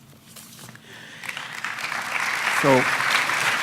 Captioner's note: applause